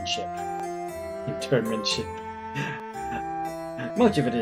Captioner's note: laughing